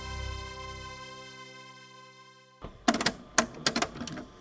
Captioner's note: theme music ends; cassette player clicks closed